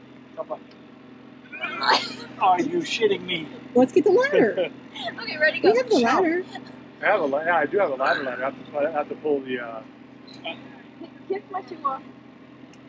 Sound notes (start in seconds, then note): 1.7 grunting; 5.0 laughs